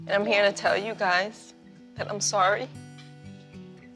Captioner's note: voice breaking